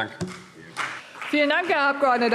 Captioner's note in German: Vereinzelter Beifall CDU und BÜNDNIS 90/DIE GRÜNEN